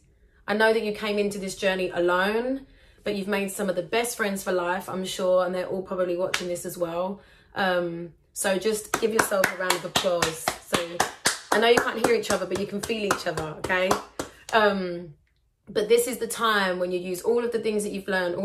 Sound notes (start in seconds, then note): 8.9 applause